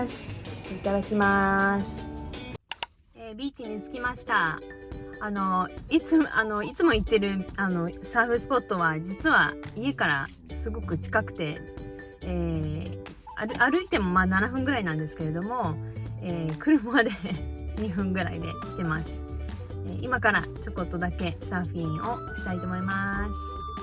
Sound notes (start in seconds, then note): 16.9 laughs